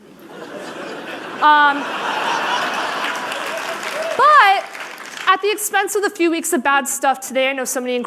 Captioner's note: laughter